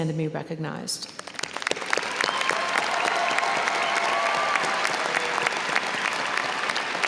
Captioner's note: audience cheering and applauding